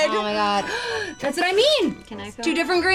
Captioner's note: gasping